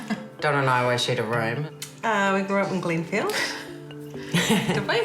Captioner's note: laughs; both laugh